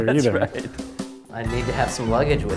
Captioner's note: laughing